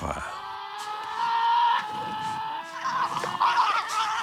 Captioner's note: animals growling